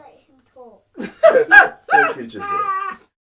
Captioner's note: laughs